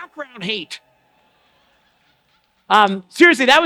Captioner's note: applause and laughter